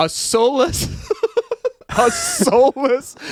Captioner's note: laughs